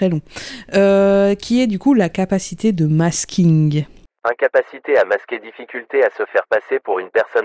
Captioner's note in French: Voix off